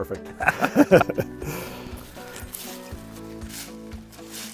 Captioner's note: both laughing